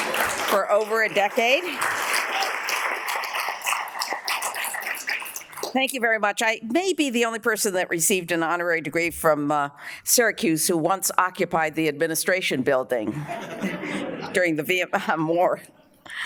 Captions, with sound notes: for over a decade. (audience applauds) Thank you very much. I may be the only person and that received an honorary degree from Syracuse who once occupied the administration building during the Vietnam War.